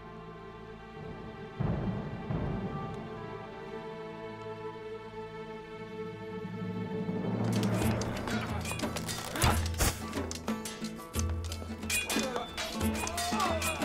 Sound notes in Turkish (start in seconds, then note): 8.2 Bağrışmalar ve kılıç sesleri; 9.4 Ok sesleri